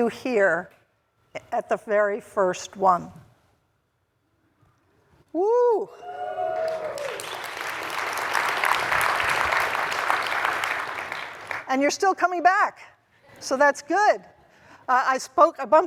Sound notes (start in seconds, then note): 6.4 applause